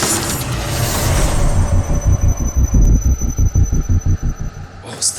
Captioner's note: sub screech noise washes over the party